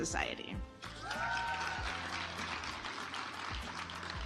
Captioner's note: audience applauds